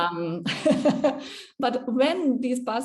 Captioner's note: both laughing